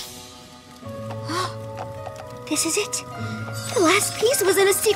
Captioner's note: gasps